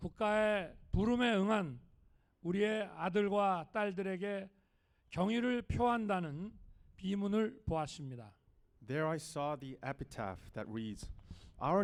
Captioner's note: speaking non-english